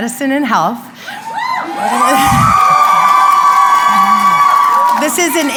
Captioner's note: crowd cheering